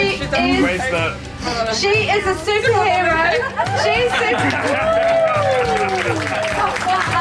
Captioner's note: everyone clapping